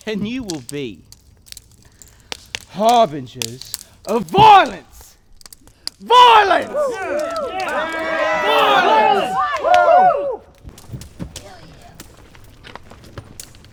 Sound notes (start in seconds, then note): 6.0 cheering; 10.2 whooping